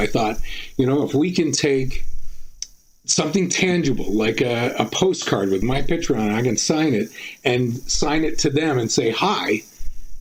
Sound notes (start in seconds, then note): none